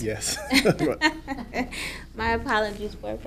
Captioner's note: laughing